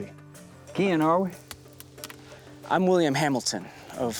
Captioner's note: none